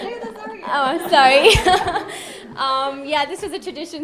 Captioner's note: laughing